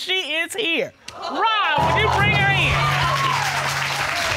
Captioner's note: audience exclaims